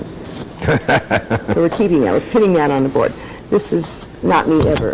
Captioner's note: laughter